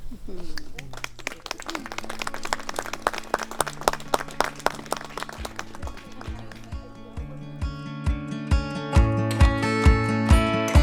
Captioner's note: murmurs of approval; applause; music fades out; music swells